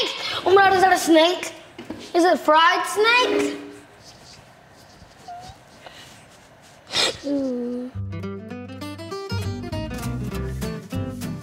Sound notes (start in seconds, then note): 3.1 metal scraping; 6.8 gasping; 7.9 cheery guitar music